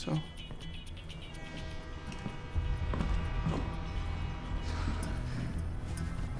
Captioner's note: headset music; train horn, slow footsteps